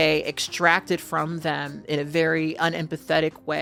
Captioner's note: none